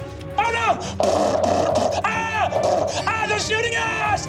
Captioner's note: screaming; mimics gunfire